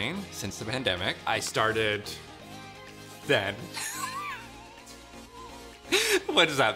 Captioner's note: chuckles